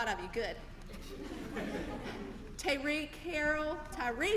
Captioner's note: laugh